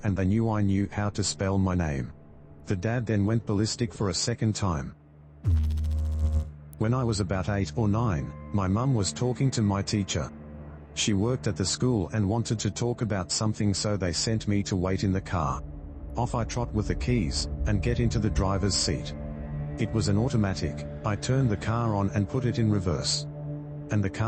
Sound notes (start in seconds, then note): 5.4 electrical noise